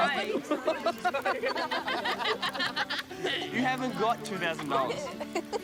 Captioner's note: laughter; fi laughs